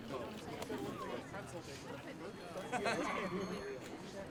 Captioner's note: men chattering